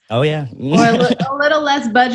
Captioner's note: laughs